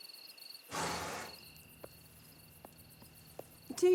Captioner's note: crickets chirping; horse snorting